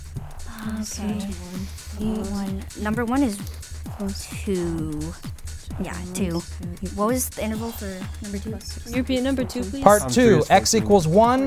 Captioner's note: wispering